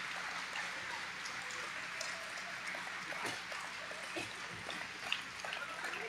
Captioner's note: audience applauding